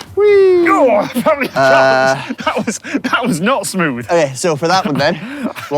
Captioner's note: groans